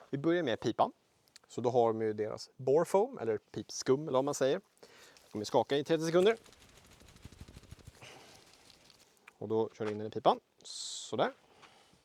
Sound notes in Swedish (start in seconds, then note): 5.6 30 seconds of shaking noises